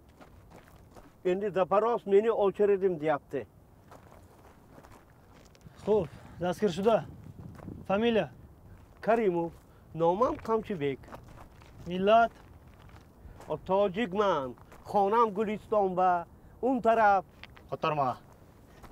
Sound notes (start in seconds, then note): 7.7 in Tajik